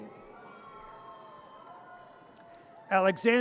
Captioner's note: audience cheers